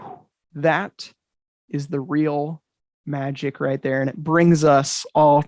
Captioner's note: blowing